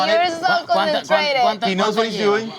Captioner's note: talking in foreign language